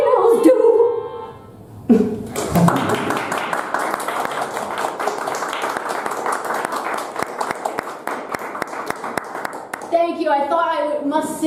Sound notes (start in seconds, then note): 9.2 audience Clapping